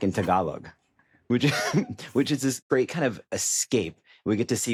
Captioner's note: short chuckle